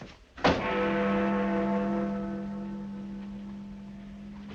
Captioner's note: clock bell ringing